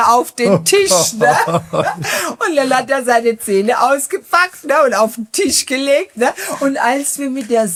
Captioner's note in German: gelächter